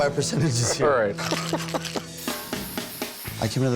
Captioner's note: laughs